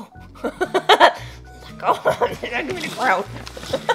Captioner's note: gremlin laughter